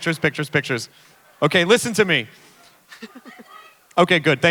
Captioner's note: woman in audience yell something